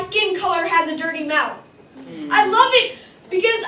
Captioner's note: audience Murmurs